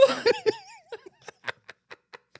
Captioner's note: laughing